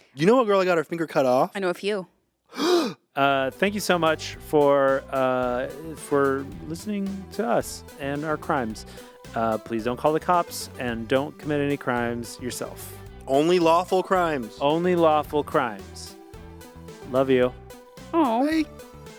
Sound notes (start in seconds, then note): 2.5 Anthony gasping